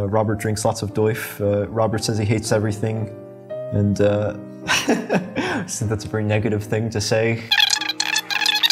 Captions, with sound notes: Robert drinks lots of DOIF, er... Robert says he hates everything. And uh... (LAUGHS) That's a very negative thing to say.